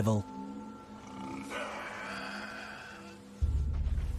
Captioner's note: growling